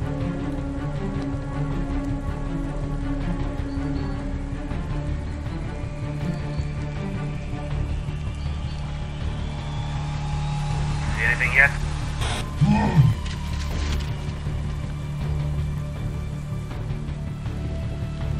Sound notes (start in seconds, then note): 11.1 radio fuzz; 12.5 animal grunt